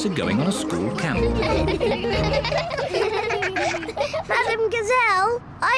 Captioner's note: all giggle